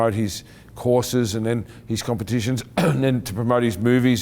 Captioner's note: clearing throat